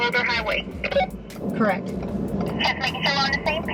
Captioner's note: radio beeps